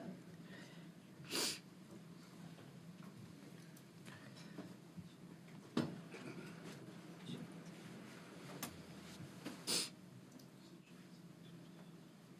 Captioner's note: laughter